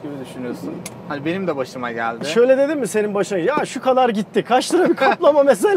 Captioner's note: laughings